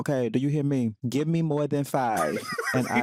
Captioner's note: laughs